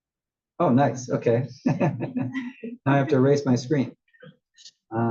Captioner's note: laugh